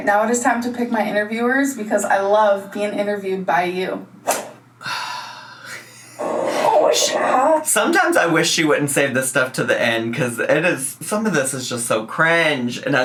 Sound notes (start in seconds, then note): 4.8 sighs